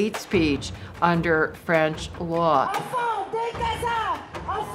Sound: protesters shouting

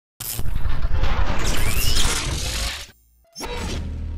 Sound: saw revving; circuitry beeping

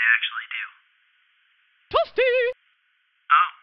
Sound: mortal kombat voice

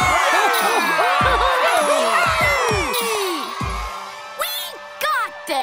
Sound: cheering

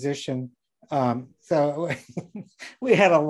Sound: laughing

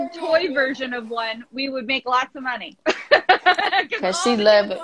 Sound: laughs

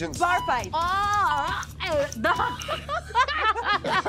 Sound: Alia stuttering; bell dings; all laughing

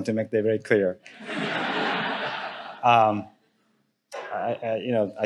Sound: audience laughing

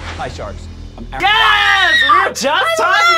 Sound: screams

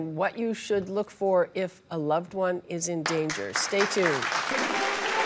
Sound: audience applauding

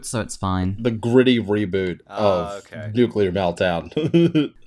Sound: laughter

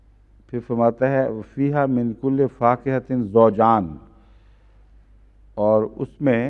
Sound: Arabic

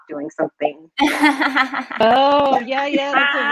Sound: laughing

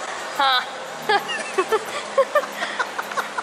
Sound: sarcastic laughing; laughing

